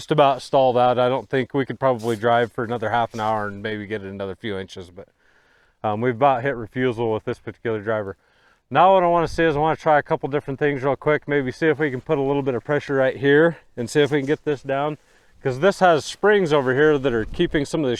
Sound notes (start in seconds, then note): none